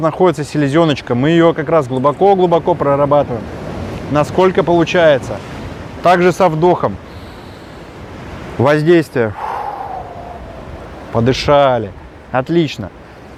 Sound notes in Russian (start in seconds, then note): 9.3 Выдох; 9.3 Вдох